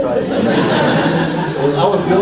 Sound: audience laughs

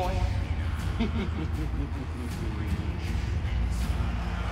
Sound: mischievous chuckle

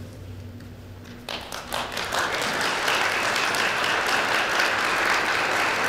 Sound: audience applauding

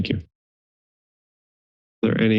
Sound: silence

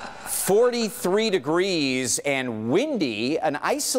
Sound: laughter

